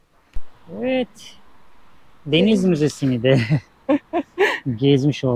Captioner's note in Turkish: kahkaha